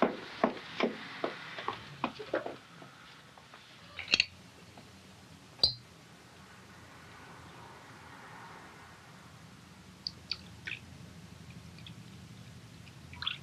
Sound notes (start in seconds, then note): 10.2 liquid sloshing